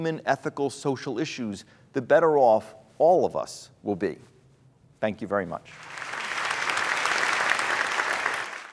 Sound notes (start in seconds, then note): 5.7 applause